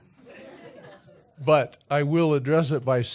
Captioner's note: laughter